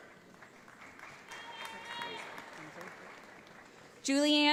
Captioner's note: audience applauds